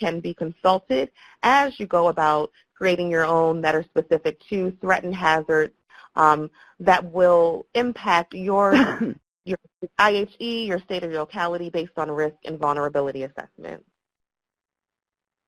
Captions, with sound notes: that can be consulted as you go about creating your own that are specific to threat and hazards that will impact your (coughs) IHE, your state or locality based on risk and vulnerability assessments.